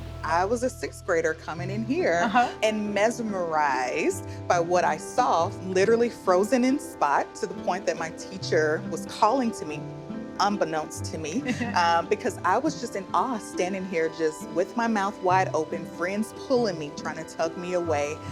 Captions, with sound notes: I was a sixth grader coming in here and mesmerized by what I saw, literally frozen in spot, to the point that my teacher was calling to me, unbeknownst to me. -[ Laughs ] -Because I was just in awe, standing here, just with my mouth wide open, friends pulling me, trying to tug me away.